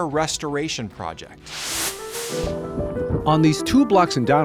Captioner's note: screen hisses